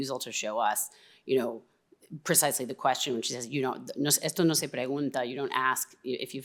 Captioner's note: speaking spanish